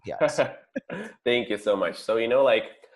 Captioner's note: laughing